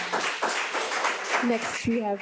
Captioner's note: audience clapping